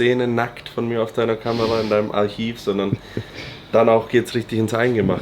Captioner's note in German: schnauben